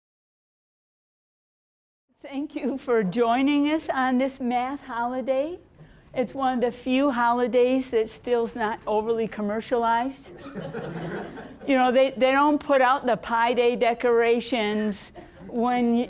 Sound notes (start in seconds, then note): 10.4 audience laughing